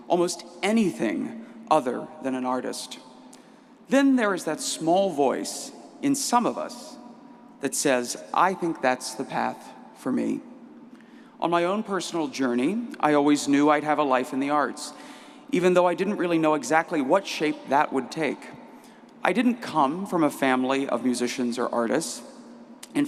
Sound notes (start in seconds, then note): none